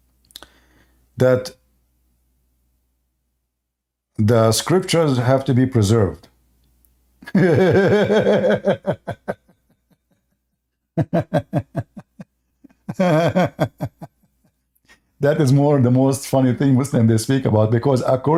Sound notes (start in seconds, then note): 7.0 Ketawa